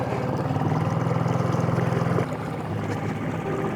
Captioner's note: boat motor hums